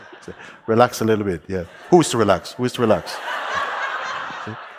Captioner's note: laughter